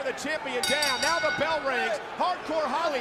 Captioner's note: bell ringing